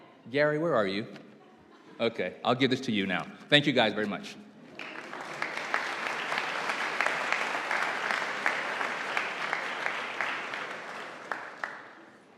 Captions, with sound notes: Gary, where are you? Okay, I'll give this to you now. Thank you guys very much. (audience applauding)